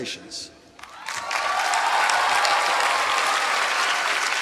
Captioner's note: applause